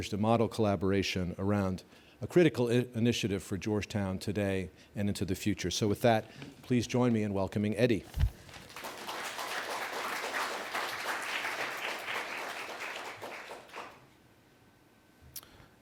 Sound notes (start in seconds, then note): 8.4 applause